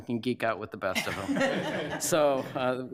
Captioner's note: laughter